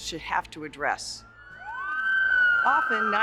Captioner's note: siren wails